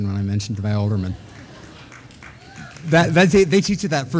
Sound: audience laughing

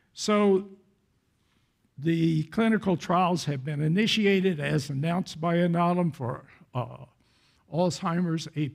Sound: none

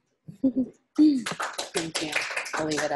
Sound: laughs; audience applauds

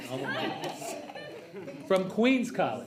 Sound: trustees laugh

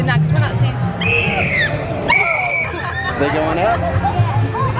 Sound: kids screaming

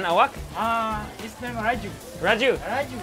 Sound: speaks in foreign language; chef speaks in a foreign language

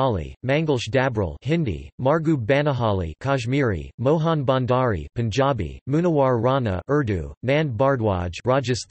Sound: Hindi

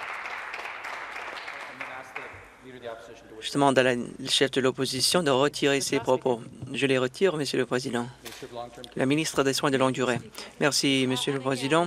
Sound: some Applause

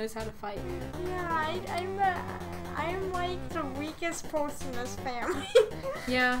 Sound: laughs

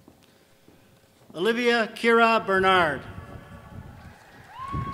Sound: applause

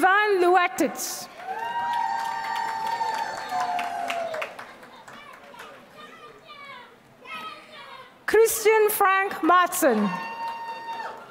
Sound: applause; applause

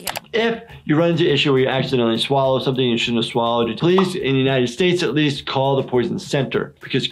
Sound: none

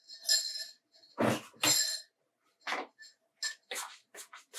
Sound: kitchen noise lol

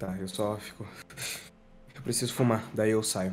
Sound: sighing

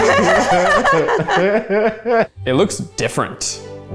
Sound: group laughs

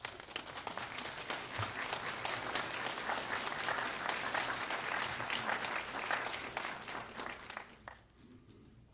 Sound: applause

